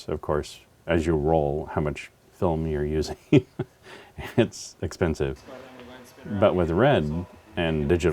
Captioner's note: laugh